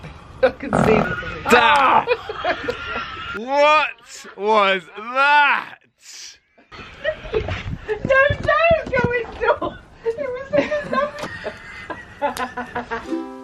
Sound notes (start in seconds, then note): 0.7 farts, all laugh; 8.9 laughing